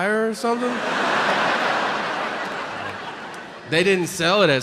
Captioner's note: audience laughing